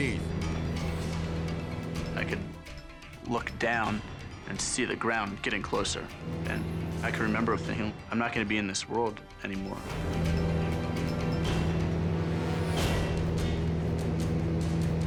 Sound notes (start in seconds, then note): 0.2 edgy dramatic music; 6.3 plane humming; 10.3 dramatic music; 10.3 plane humming